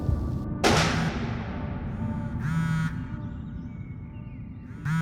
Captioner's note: object smacking; birds chirping